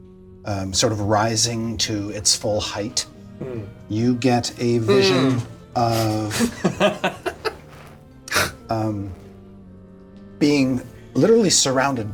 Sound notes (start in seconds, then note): 3.1 all chuckle nervously